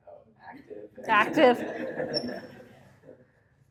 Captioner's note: laughter